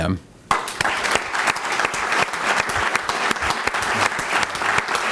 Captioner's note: applause